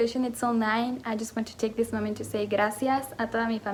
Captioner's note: spanish